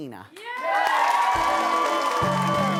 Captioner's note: cheering; upbeat music